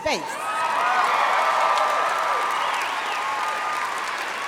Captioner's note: audience applauding